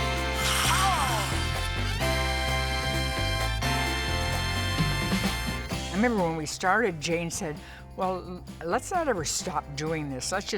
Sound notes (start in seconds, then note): 0.5 can spraying; 3.0 bright music continues